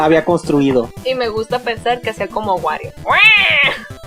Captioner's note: squeal